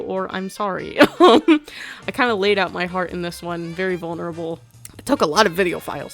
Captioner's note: laughs